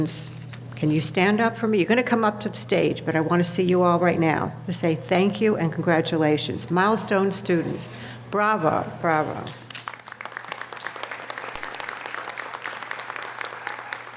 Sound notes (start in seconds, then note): 9.7 audience applause